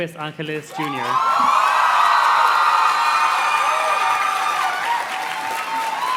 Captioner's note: audience cheers and claps